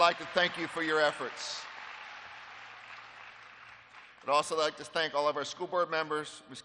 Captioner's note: applause